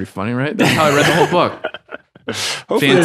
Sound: laughing

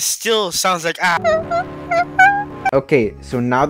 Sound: whimpering like the sad little failure I am

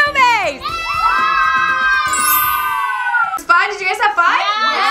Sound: children cheering

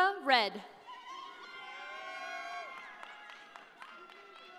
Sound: audience cheering

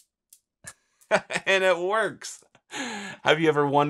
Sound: laughs

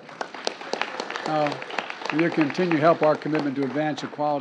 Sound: applause

